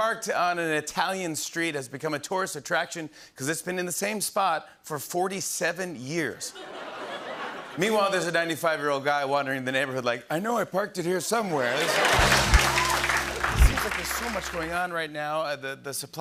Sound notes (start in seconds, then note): 6.5 laughter; 11.7 applause